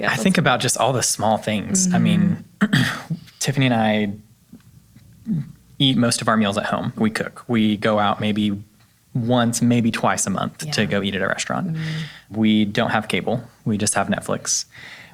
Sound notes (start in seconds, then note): 2.6 clears throat